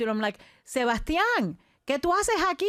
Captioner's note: speaking in foreign language